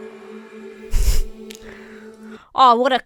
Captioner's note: chuckles